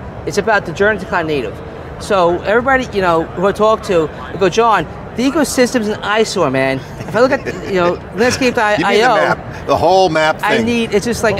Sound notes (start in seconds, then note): 8.4 laughing